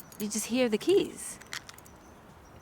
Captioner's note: keys jingle